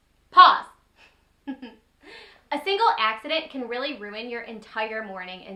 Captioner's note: chuckles